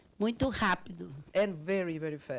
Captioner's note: speaking Portuguese